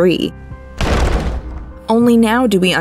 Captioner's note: banging sounds